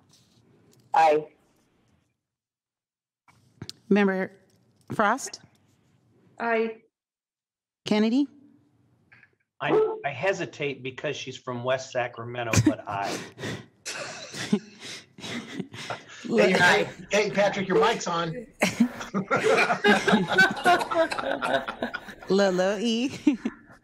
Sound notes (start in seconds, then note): 18.6 laughter